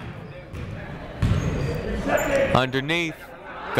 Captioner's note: people shouting in the crowd